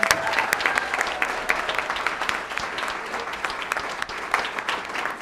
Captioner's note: applause